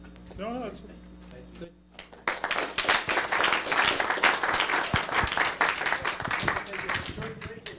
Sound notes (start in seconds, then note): 2.0 applause